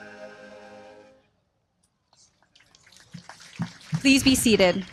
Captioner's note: applause